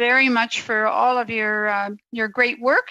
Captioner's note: speaking French